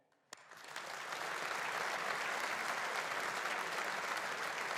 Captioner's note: audience applauding